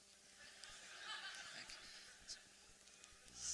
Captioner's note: laughter; more laughter